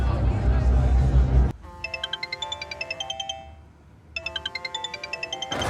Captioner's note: phone rings